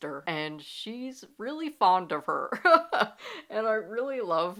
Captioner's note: laughing